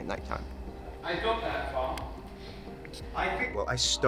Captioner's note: background Speech